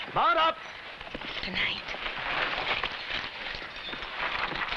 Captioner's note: whispers